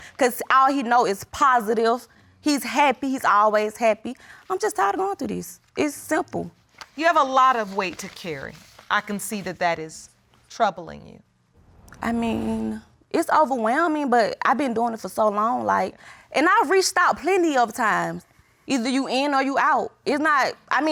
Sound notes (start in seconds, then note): none